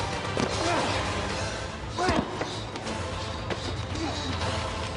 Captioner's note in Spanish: Golpes